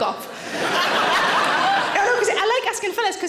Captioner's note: audience laughing